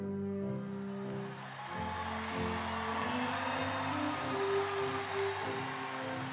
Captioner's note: everyone clapping; everyone cheering